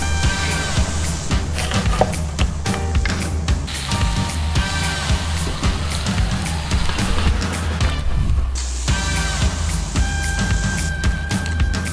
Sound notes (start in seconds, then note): 0.2 sizzling sound; 1.6 chopping sound; 4.0 sizzling sound